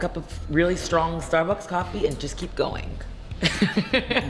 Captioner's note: laughs